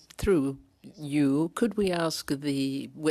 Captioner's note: speaking French